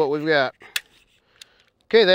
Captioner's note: click of the trigger